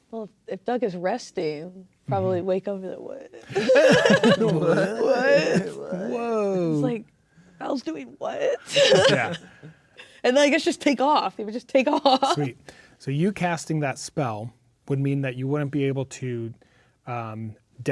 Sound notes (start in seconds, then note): 3.5 players laughing; 12.1 laughing